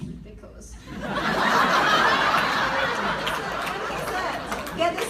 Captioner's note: laugh